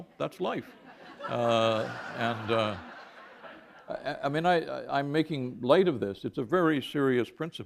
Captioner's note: laughter